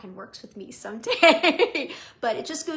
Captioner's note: laughing